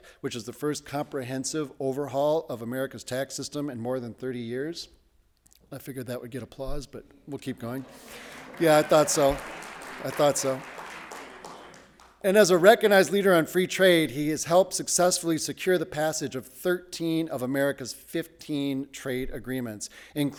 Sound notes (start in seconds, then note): 7.6 audience applauding